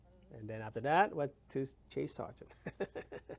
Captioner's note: laughs